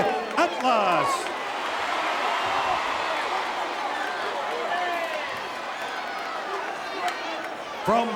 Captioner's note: applause